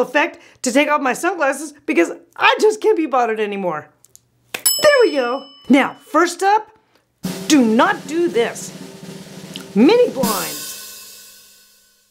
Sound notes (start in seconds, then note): 3.9 loud snap; 4.7 loud ding; 7.2 drum roll; 10.7 loud boom